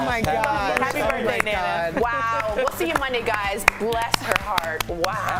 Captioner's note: laughter